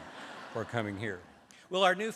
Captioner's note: laughter